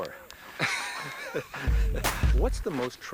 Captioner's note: Sean laughs